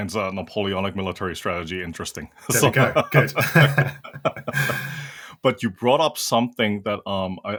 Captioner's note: laugh